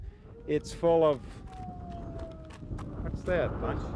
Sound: wailing sound

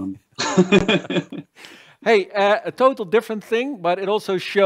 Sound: laughter

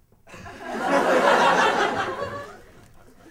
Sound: laughter

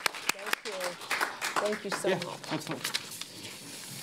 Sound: applause

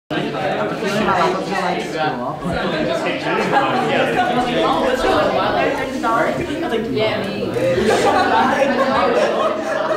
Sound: students chatting

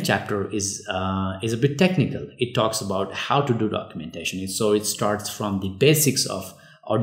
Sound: uh

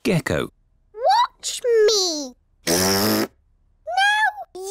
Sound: blows raspberry

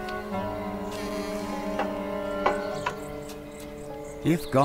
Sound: door creaks; door shuts

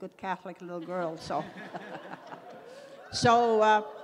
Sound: laughs

